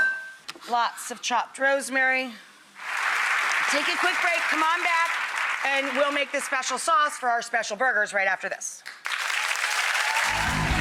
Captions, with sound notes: lots of chopped rosemary. (audience applauding) Take a quick break, come on back, and we'll make the special sauce for our special burgers, right after this.